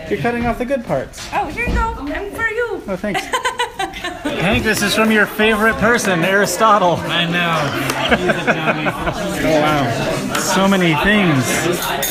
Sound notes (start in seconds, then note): 3.1 laughs; 8.0 laughs